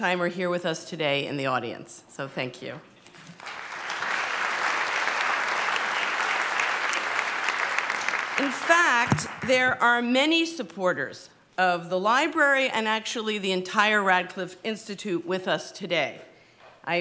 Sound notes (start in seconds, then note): 3.3 applause